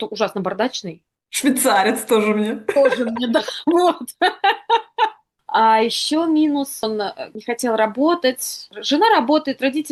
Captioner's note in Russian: смех